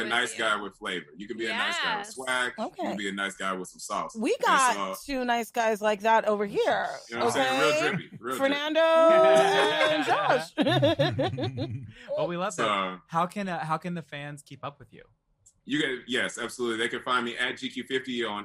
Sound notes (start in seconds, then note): 12.0 laughter